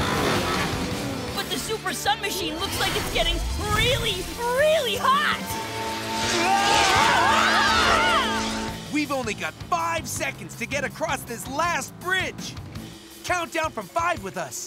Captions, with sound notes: But the Super Sun Machine looks like it's getting really, really hot. [screaming] We've only got five seconds to get across this last bridge. Count down from five with us.